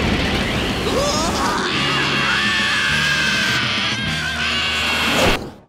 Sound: screaming

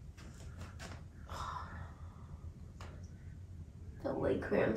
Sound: heavy exhale

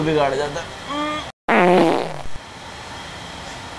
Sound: farts

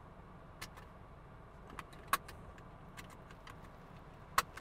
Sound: seatbelt clicks

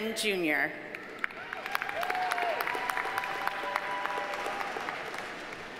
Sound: audience applauding

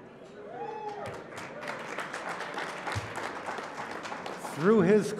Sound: applause

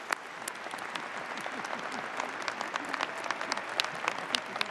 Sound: audience applauding

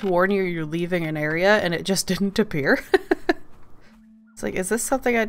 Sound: laughs

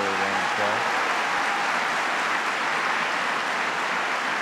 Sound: applause

